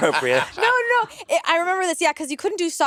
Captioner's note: laughing